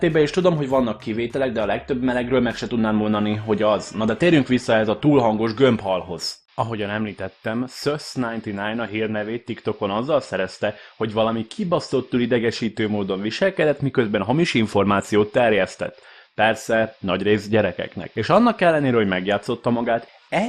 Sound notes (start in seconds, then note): 8.2 fuzzz